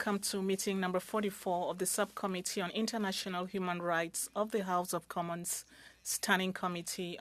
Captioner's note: speaking French